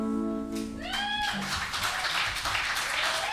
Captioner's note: cheers and applause